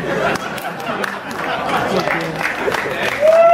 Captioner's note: laughter